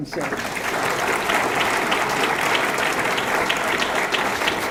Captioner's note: audience clapping